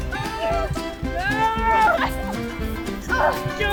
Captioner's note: tired grunting